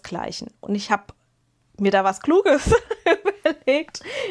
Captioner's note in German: gelächter